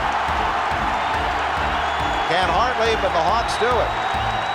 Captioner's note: crowd cheering